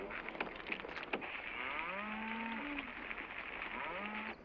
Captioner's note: cows mooing